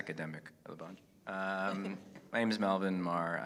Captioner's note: audience laughing